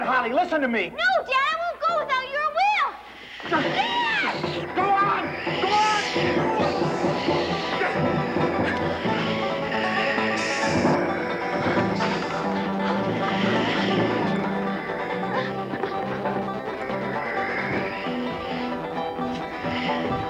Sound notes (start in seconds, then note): 6.4 intense music; 7.4 Sleestak wheezing; 9.2 intense music; 12.0 Sleestak wheezing; 17.5 intense music